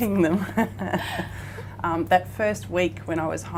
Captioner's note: laughing